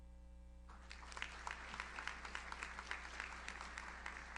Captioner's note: audience applauds